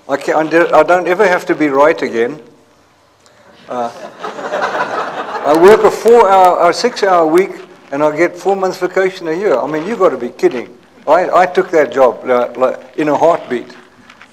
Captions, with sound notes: I don't ever have to be right again. [LAUGHTER] I work for a six-hour week, and I'll get four-months vacation a year. I mean, you gotta be kidding. I took that job in a heartbeat.